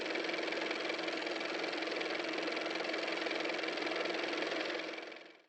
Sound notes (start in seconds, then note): 1.8 car motor